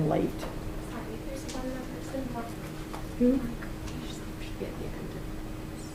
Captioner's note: indistinct conversation